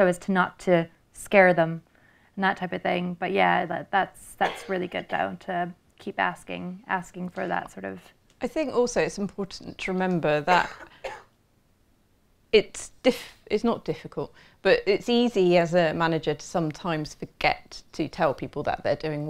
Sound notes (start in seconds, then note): 4.4 sneezing; 10.4 coughing